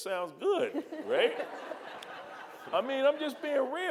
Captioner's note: audience laughing